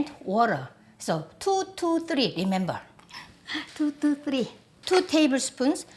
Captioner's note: laughs